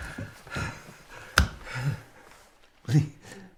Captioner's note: shuddered breathing